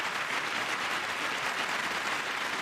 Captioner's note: applause